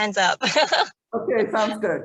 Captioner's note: laughs